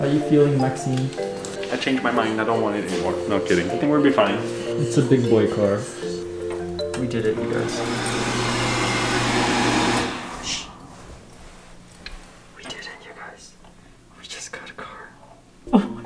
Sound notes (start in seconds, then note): 7.4 hand dryer whooshing